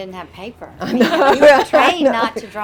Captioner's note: laughs